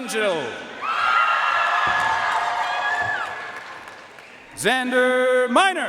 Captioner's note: audience cheering and applauding